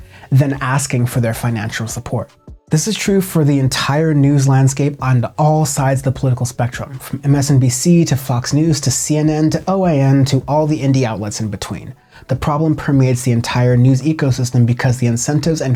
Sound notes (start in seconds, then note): none